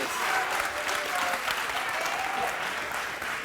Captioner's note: cheering